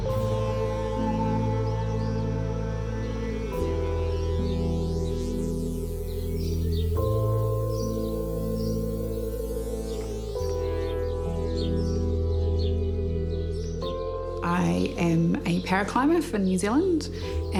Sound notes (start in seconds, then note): 0.2 light music; 6.4 birdsong